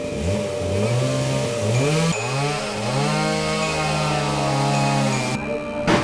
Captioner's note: there were noises of the building being torn down next door